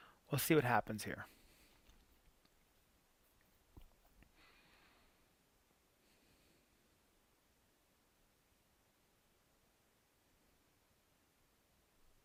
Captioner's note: silence